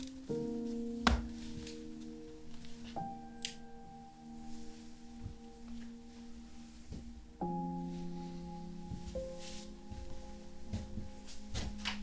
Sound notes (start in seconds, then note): 0.2 gentle music; 3.0 light switch clicks